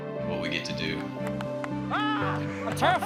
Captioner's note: laughter, applause